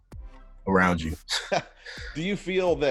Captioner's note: chuckles